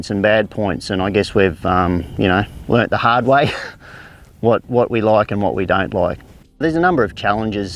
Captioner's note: laughs